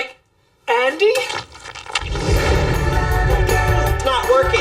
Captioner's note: obscene squishing